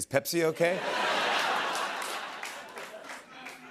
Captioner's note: laughter